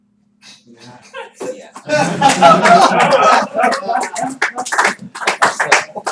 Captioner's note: laughter, applause